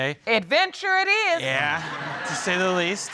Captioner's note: audience laughing